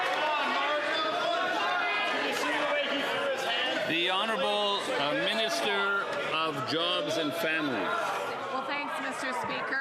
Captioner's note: some Applause